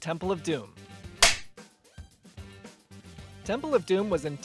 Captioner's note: film clapper sound, music continues